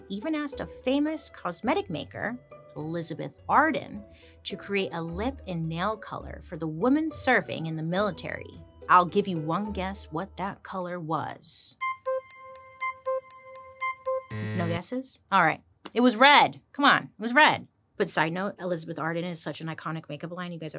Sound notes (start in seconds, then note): 11.7 bright music; 14.1 buzzer buzzes